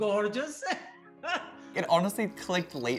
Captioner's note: laughter